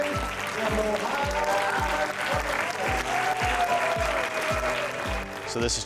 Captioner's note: audience cheering,applauding